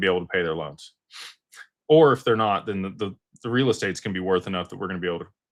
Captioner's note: snorts